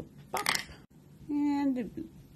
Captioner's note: clack